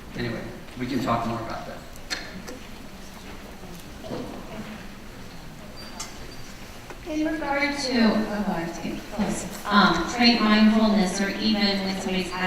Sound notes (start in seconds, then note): 7.3 voiceover